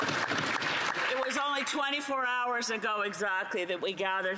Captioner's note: some Applause